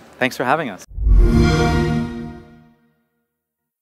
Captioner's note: xbox sound